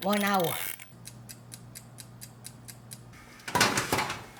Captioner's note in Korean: 타이머 틱택 틱택